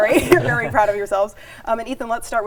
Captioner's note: team laughing